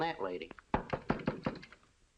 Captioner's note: knocking on door